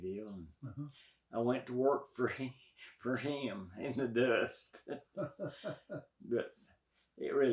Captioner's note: interviewer laughs